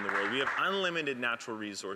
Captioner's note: some Applause